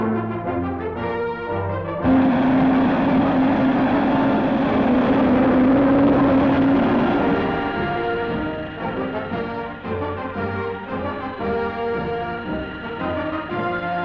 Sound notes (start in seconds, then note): 2.1 jet roaring